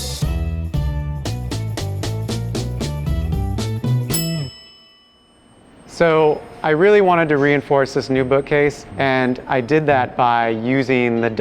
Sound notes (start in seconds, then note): 4.0 clock timer chiming